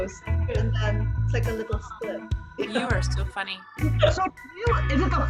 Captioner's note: laughs